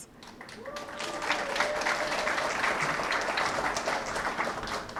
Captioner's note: applause